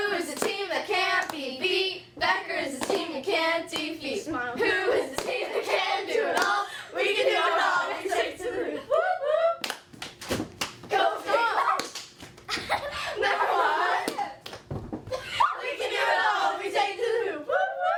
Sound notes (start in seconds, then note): 9.9 claps